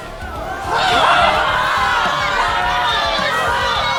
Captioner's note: Maddy lets out a loud grunt as she lifts Mariposa